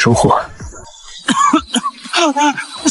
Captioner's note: cough cough